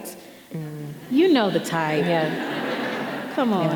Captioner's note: audience laughing